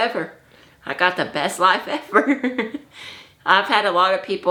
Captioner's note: laughs